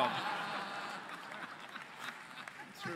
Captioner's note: laughter